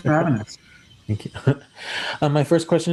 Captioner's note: chuckles